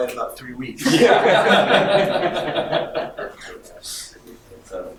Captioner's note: audience laughing